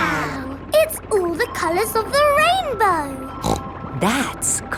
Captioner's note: snorts